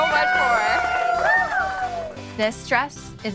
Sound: cheering

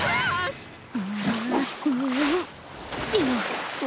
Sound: groaning

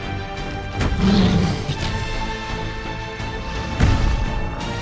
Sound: dinosaur skeleton growls

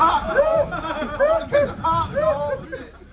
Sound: laugh

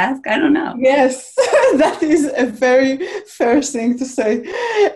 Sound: chuckles

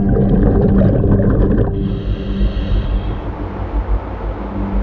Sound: water bubbles

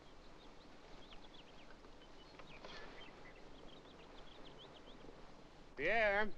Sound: birds singing

